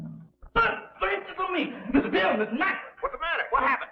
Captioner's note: shouting